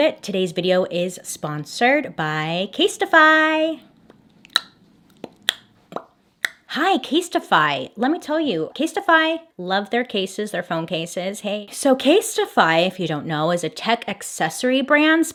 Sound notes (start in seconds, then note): 3.8 vocal percussion